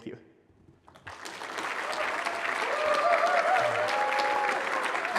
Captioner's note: cheering, applause